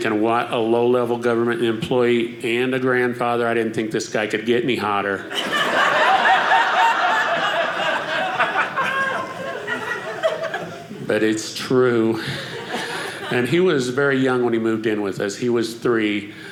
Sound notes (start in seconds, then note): 5.2 audience laughing